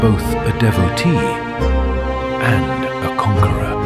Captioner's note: thoughtful